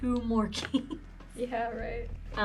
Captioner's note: giggles